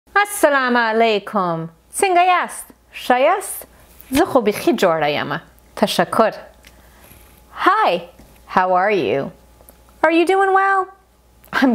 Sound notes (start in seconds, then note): 2.1 speaking foreign language